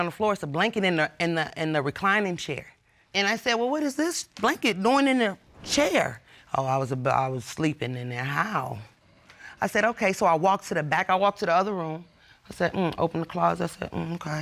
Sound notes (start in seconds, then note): none